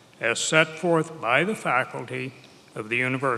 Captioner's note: none